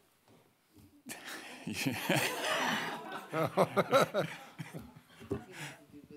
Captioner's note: audience laughing; laughing; audience laughing